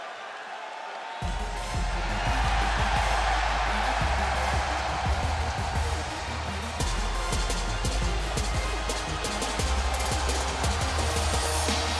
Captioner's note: crowd cheering